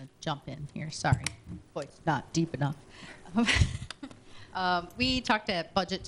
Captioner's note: laughter